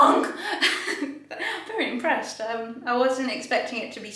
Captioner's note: laughing